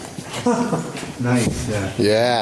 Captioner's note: laughs